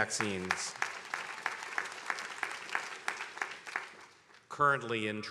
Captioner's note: attendees applauding